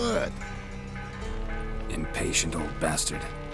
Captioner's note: alarm bells start ringing